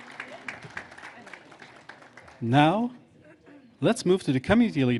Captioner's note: applause